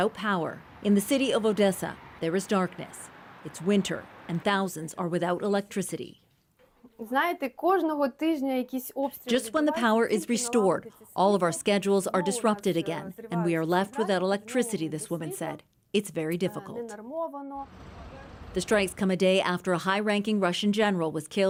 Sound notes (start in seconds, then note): 7.9 speaking alternate language